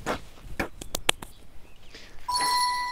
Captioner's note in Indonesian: Napas dalam